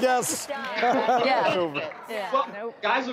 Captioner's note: laughter